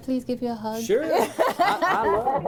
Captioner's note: laughter